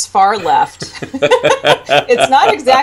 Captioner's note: laughter